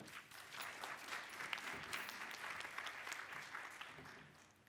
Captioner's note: audience applause